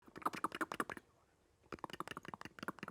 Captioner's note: vocalizes